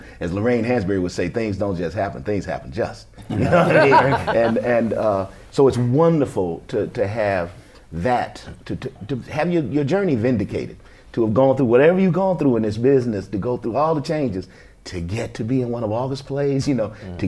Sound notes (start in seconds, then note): 3.2 laughter